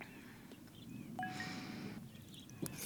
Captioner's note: phone chimes